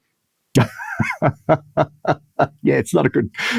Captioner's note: laughing